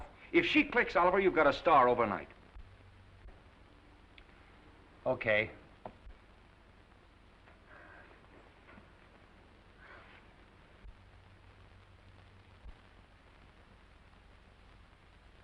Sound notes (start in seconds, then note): 9.5 Esther sighs